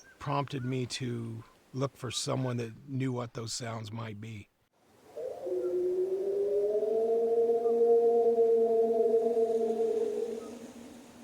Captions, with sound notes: It prompted me to look for someone that knew what those sounds might be. (Howling)